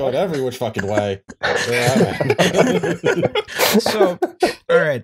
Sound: laughter

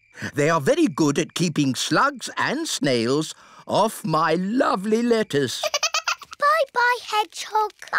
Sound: giggles

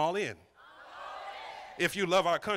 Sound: crowd

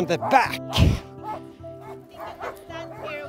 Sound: dogs barking

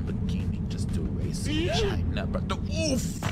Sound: character screams

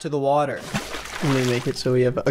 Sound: water splashes loudly

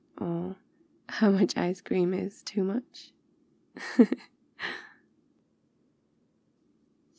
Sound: laughs

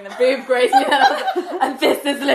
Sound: laughing

